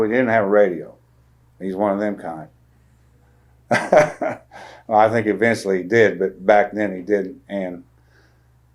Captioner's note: laughs